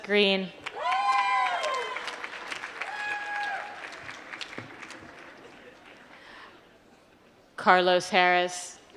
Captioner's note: applause